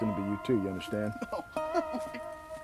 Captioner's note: whimpering